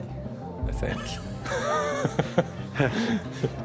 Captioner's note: chuckles